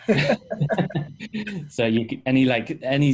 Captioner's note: laughing